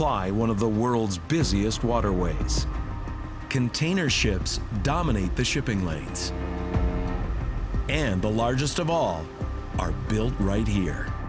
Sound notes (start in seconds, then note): 5.9 ship horn bellows